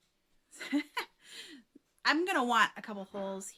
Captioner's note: giggles